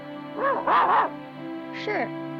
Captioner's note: Arrow barks